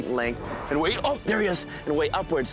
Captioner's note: air hissing